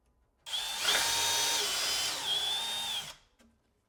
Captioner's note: tool whirring